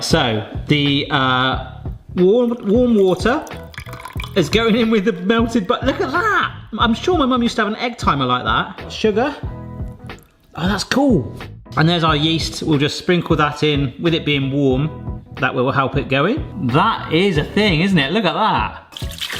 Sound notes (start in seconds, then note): 2.3 water trickling; 9.1 light upbeat music